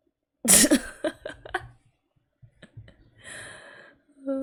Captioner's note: laughs